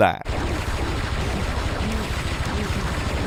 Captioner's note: gunshots